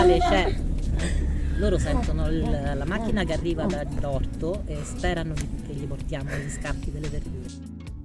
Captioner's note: donkey bray